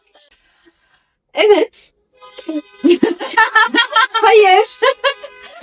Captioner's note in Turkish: kahkaha